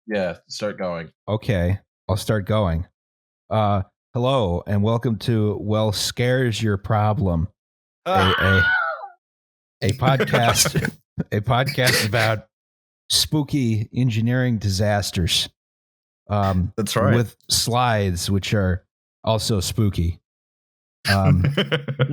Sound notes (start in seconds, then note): 8.4 ungodly shriek; 9.8 laughter; 21.0 laughs